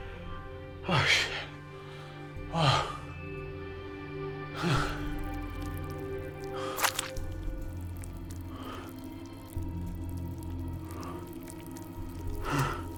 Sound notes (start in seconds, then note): 4.6 moist sounds